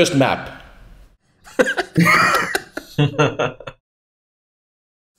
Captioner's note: laughs